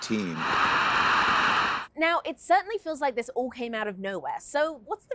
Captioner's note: cheers and Applause